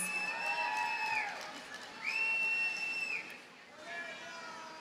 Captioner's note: audience cheers and applauds